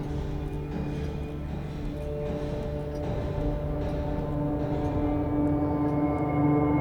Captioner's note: brooding music; clock ticking